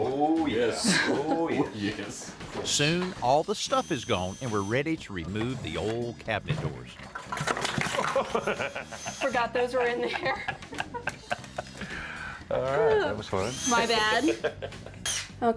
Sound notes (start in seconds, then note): 0.7 chuckles; 7.1 crashes; 7.8 laughs; 11.6 both laugh; 14.3 laughs